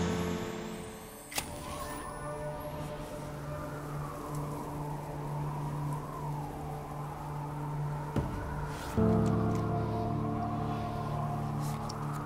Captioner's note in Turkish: Rüzgar Sesi